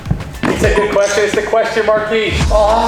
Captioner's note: beep